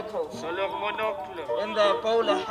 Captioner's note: translator speaks in foreign language